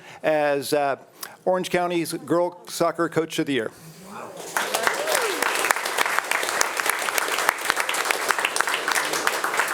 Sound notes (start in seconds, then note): 4.4 attendees cheering and applauding